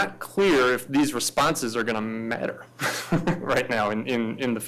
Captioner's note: laughs